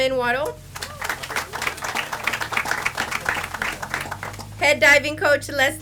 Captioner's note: audience applauds